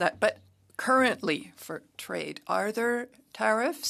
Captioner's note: speaking French